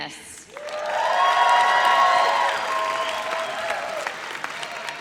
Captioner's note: audience cheers